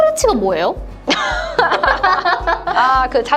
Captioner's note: laughter